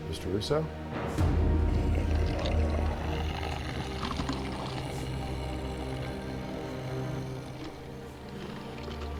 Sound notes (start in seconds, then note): 1.4 growling